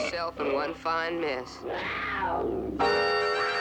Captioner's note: snarling